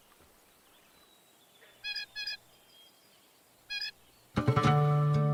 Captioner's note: birds chirping; gentle upbeat music